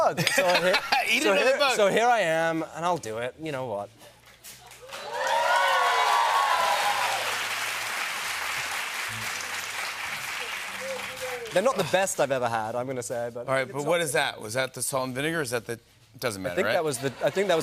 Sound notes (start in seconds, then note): 0.1 laughs; 4.7 cheers and applause